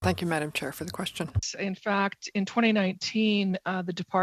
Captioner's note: speaking french